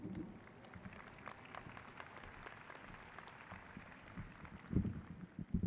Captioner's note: graduates clapping